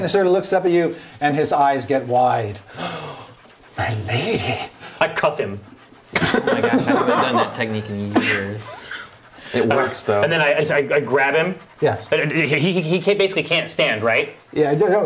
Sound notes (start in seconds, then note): 6.1 laughing